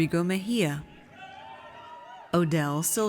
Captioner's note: audience cheers